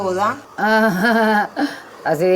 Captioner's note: laughter with sarcasm